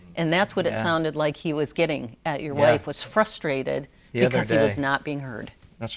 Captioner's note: none